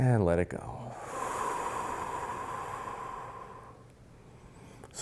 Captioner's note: loud exhaling